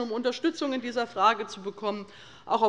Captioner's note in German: none